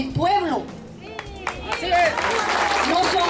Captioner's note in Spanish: Aplausos